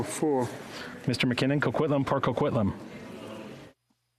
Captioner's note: speaking French